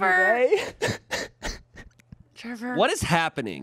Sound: laughs

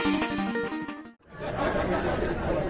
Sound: chatter

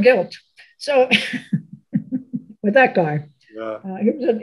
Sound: laughs

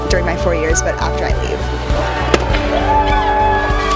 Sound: cheering

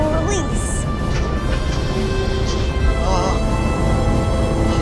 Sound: engine roaring

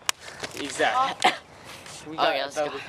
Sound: cough

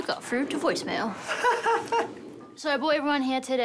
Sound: man laughs

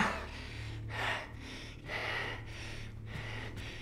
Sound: panting

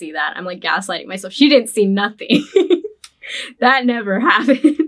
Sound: laughs

